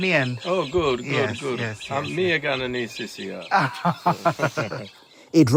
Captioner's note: laughs